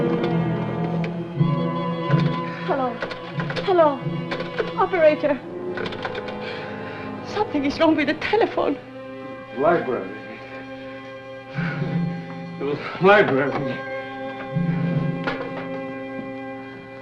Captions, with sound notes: [ Clicking Receiver ] Hello. Hello, Operator-- Something is wrong with the telephone. The library. [ Panting ] The library. [ Handset Settles In Cradle ]